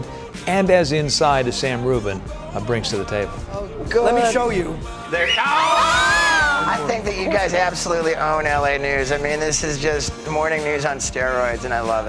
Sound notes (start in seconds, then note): 5.1 reporters screaming